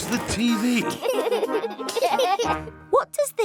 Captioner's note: laughter